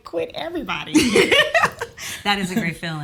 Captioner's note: laughs